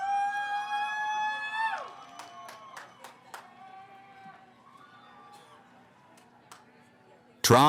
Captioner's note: cheering